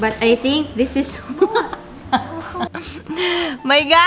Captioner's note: laughs